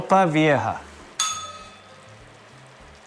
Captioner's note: bell rings